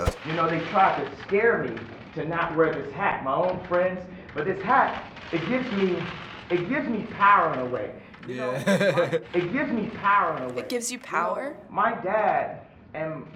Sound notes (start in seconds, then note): 8.3 laughs